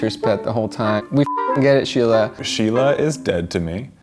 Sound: beeps

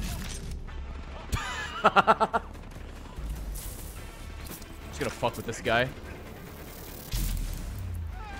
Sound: laughs

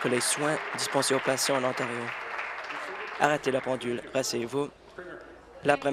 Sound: applause

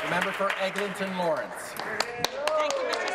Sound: applause

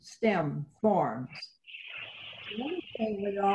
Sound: interference

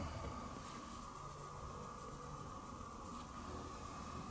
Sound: scratching

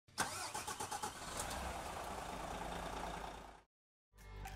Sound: engine starts

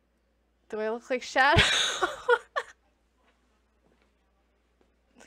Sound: laughs

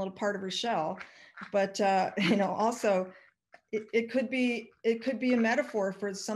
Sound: chuckles

